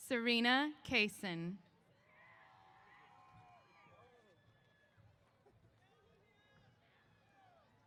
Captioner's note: cheers